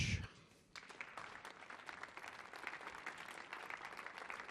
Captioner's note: audience clapping